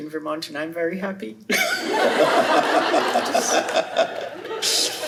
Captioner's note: laughter